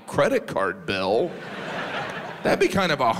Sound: audience laughs

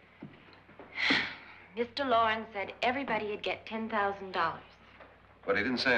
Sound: sighs

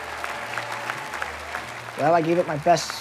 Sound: audience clapping

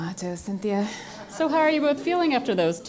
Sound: laugh

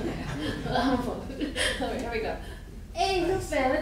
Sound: laughing

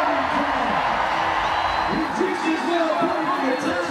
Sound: crowd cheers and applauds

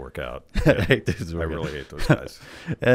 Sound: laughs

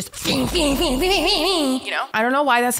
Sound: super cool fighting sounds

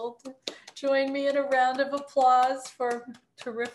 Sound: applauds

